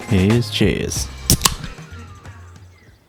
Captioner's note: tasty beverage opening